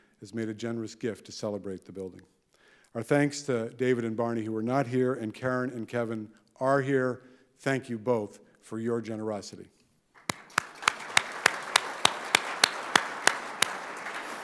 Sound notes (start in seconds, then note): 10.1 audience applauding